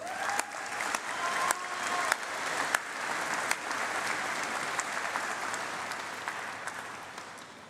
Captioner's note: applause